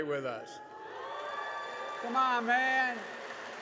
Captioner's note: applause